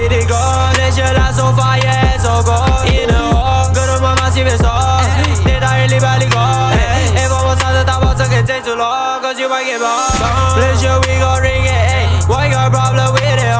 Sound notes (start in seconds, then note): 10.1 cannon